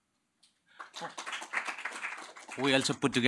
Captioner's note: applause